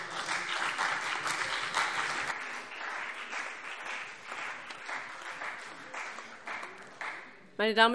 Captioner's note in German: Beifall CDU und BÜNDNIS 90/DIE GRÜNEN